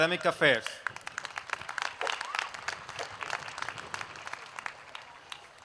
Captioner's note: applause